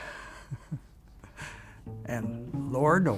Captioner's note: chuckles